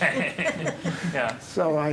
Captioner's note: laughing